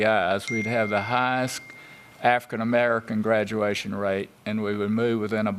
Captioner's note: sound of text message